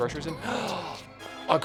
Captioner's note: gasp